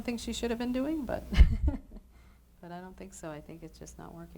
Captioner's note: chuckles